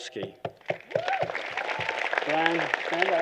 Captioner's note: applause